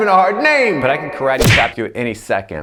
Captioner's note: hand smacks